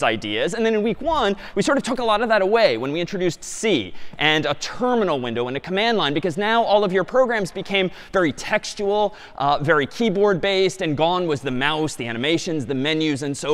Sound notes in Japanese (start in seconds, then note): none